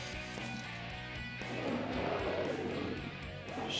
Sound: roaring

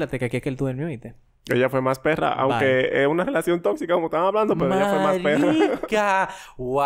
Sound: laughs

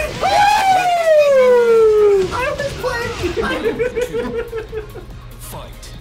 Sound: laugh

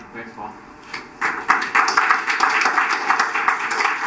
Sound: applause

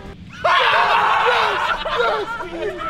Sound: cheering

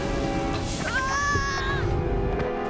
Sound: screaming

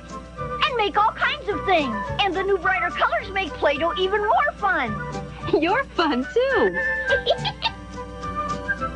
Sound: laugh

